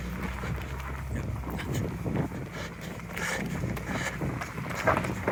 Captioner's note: engine revving